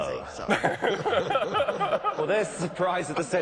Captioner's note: laughing